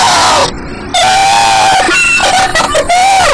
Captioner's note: banshee laughter